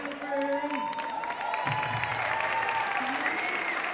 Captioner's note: applauding drowns out speaking